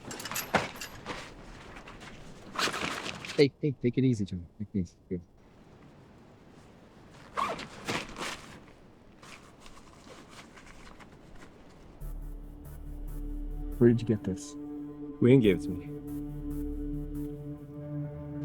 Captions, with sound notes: [Loud rifling] Hey, hey take it easy, Joey. Take it easy. [Zipping] Where did you get this? Huiying gave it to me.